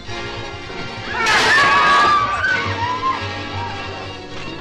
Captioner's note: screaming